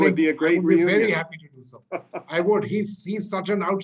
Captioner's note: laughter